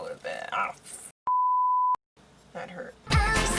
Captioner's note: beep